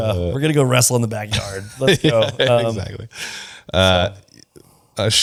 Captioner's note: laughs; laughs